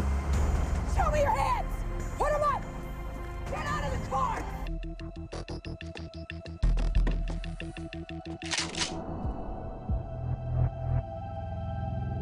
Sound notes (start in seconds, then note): 8.4 gun cocks